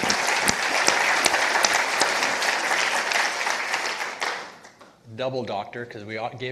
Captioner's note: and participants applauding